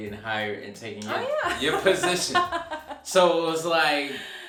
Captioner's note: laughing